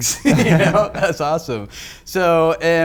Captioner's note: laughing